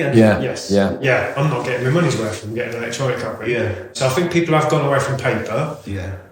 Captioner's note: murmurs